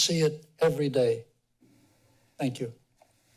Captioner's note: pause